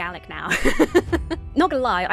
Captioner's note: laughs